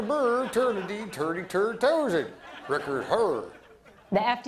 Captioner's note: light laughter